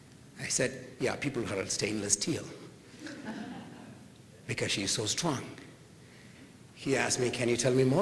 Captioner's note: laughter